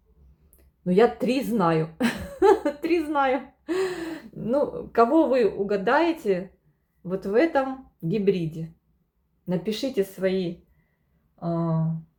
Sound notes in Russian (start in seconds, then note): 2.0 смех; 3.7 тяжело вздыхает